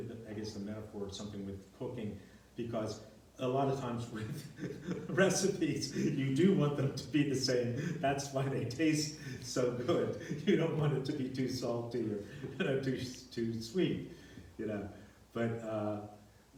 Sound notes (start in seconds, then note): 4.1 laughs